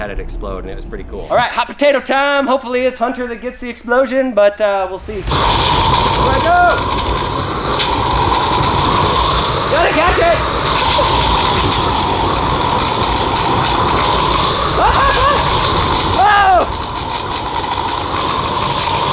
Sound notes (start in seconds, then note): 5.3 flamethrower blasting; 15.0 yells